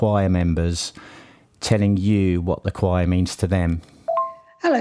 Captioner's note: voice message notification